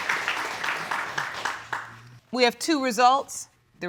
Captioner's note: audience applauding